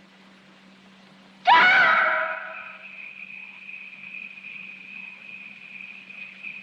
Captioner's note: screams; crickets Chirping Loudly